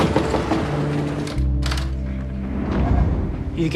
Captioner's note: knocking